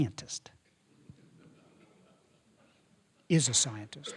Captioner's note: audience laughing